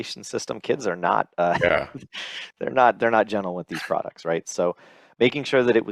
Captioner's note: laughs